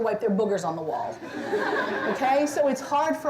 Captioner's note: laughter